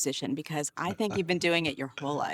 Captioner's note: chuckling